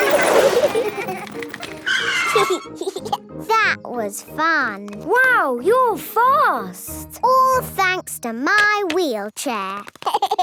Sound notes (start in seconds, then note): 1.4 brakes squealing; 2.1 giggling; 10.0 laughing